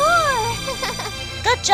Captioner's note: giggles